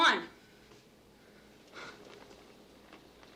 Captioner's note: exhales sharply